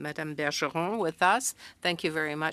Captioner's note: speaking French